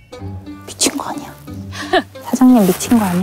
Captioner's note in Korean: 속닥